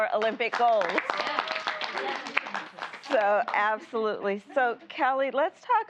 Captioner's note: applause